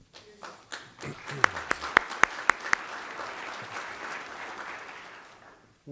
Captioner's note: applause